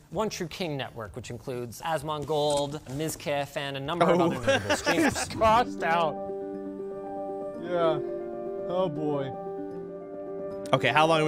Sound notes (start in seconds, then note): 4.1 laughter